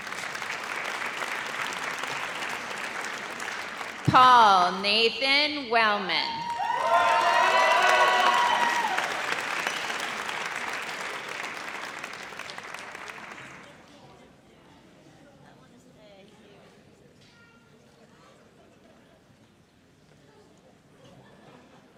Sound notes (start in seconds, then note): 0.0 audience applauds; 6.1 audience cheers